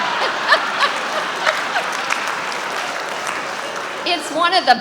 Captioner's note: audience applauding